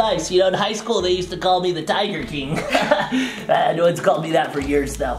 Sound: chuckles

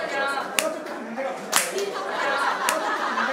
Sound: clapping

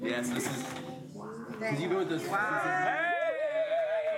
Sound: cheering

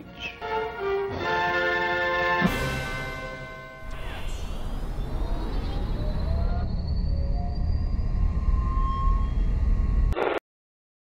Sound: computer sounds

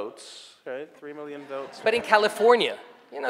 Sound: audience laughing

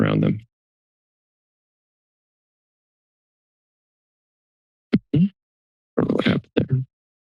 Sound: silence

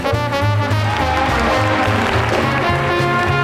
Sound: audience applauding

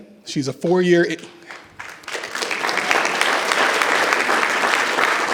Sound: audience applause

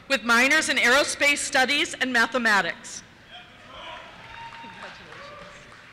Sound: cheers

